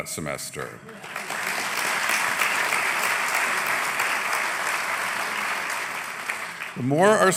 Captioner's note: applause